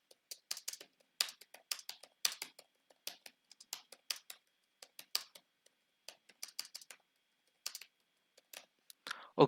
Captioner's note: clicking of keyboard